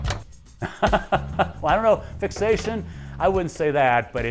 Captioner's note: laughs